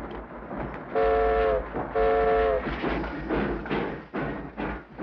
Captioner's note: train horn toots; train chugs